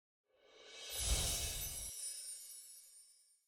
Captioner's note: chiming